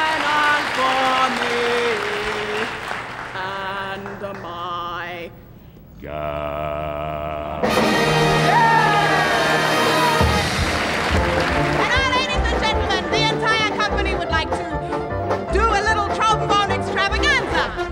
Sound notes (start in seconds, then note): 8.2 performers cheer; 10.7 audience applauds